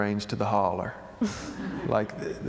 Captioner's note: laughter